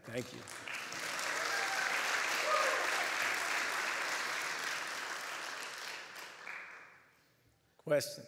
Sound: applause

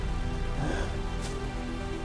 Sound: gasping breath

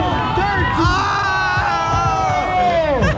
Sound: crowd

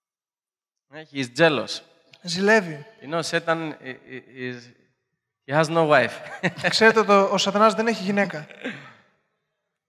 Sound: laughing

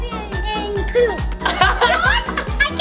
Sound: laughing

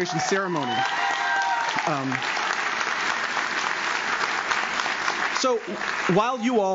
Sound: audience cheers; audience claps

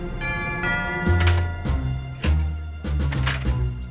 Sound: doorbell Ringing

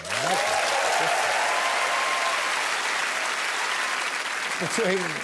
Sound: crowd applauds and cheers

